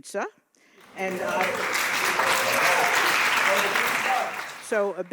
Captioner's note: audience applauding